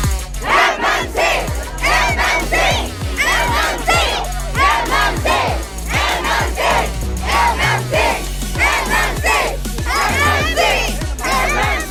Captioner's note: Students chanting “MMC”